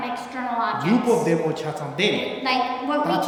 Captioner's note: speaking tibetan